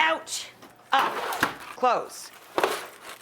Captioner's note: baking sheet sliding